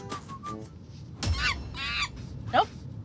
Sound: monkey screeching

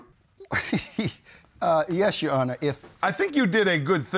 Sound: chuckling

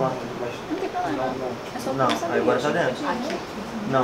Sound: indistinct chatter

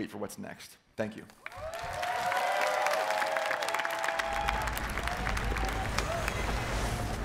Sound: cheering

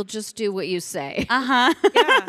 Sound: chuckles

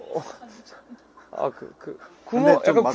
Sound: laughing

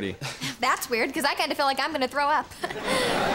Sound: chuckles

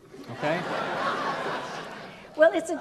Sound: audience laughs

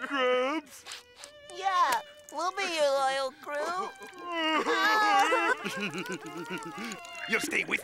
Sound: crying

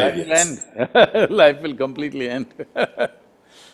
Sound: laughs

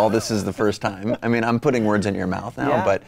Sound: laughs

